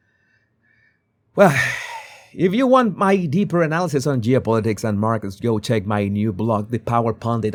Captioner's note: sigh